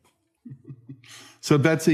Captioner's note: laughing